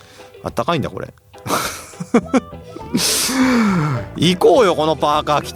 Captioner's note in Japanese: 鼻息